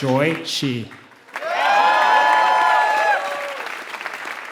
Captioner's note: applause